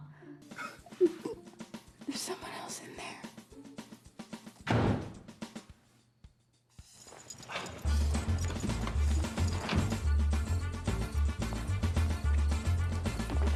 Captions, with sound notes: THERE SOMEONE ESLE IN THERE ! [DOOR SLAMS]